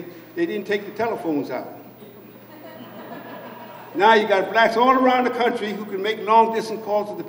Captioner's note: laughter